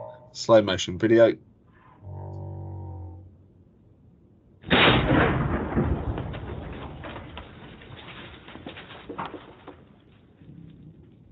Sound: booming crash

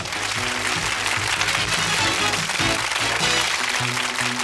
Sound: applause; upbeat music

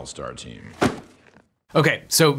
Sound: file thumps

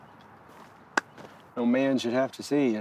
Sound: lips smacking

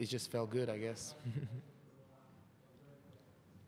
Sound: chuckle

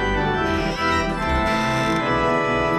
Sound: creaky door opens again

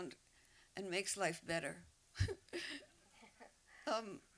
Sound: laughter

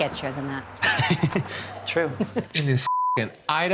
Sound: laughs

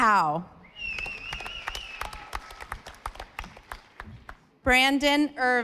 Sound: audience applauding

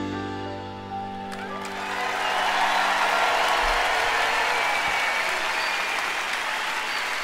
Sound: audience applauding; audience cheering

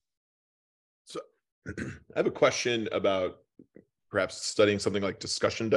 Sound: cough

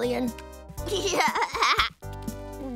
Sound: laughing

